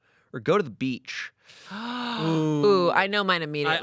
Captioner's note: Amanda gasps